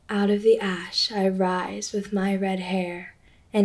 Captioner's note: none